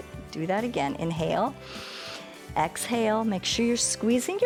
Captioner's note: inhales